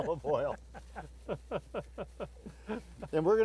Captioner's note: all laugh